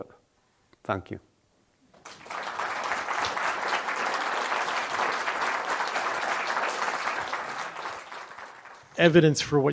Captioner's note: applause